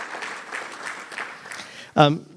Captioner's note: applause